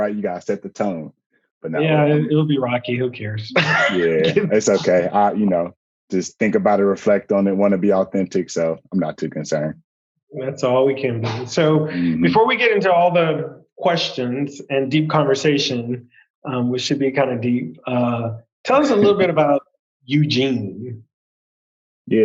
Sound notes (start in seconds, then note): 3.5 laughs